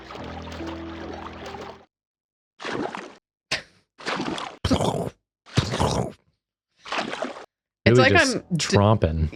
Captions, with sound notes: [squelch] [squelch] [imitating squelch] [squelch] It's like I'm… Julia just… tromping.